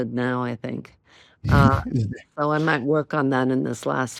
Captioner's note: chuckles